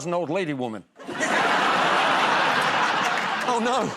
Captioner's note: laughter